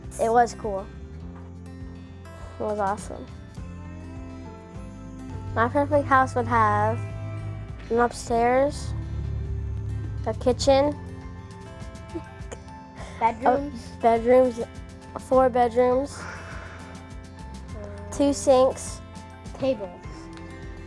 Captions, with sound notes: It was cool It was awesome. My perfect house would have An upstairs A kitchen (giggles) Bedrooms, four bedrooms Two sinks Tables